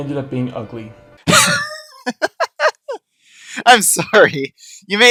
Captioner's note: laughter